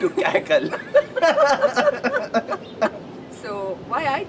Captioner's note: laughter